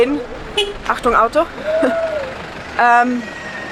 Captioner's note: honking